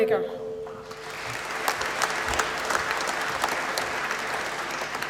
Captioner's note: applause